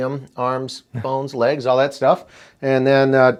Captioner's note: laughs